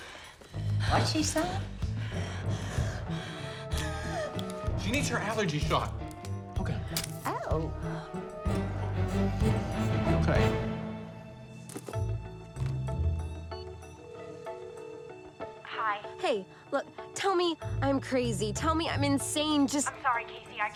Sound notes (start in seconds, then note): 2.0 wheezing; 11.5 phone beeps; 13.3 line start ringing